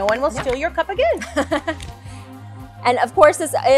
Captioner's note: laughing